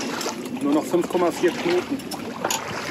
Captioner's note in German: Wind